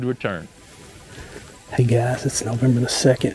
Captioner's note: whispering